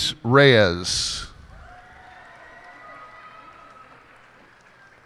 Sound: cheers and applause

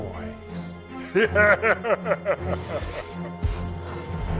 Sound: laughs evilly

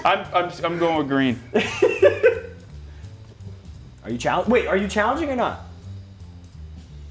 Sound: laugh

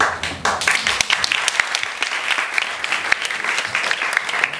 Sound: audience applause

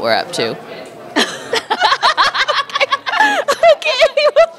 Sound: laughter

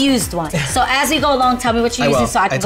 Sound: laughs

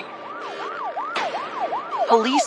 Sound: sirens wailing

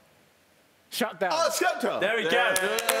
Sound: shouting

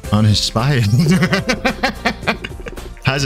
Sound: laughing

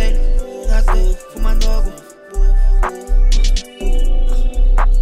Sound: boof, boof, boof, boof

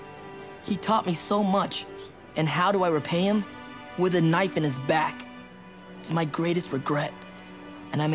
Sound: none

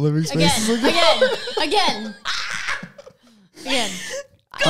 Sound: laughing together

